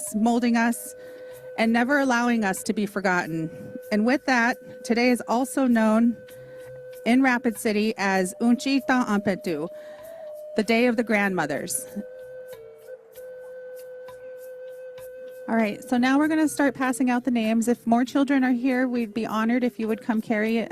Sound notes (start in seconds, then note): 8.2 speaking native language